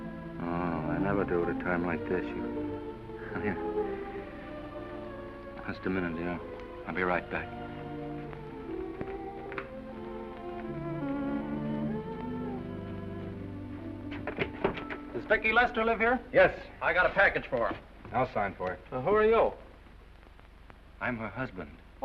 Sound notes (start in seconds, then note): 8.1 soft music; 14.0 door opens